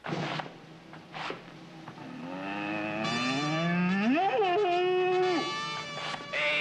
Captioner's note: bellows like a bull